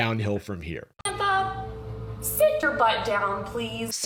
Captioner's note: vaguely southern